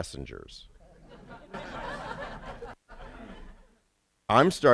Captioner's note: laughter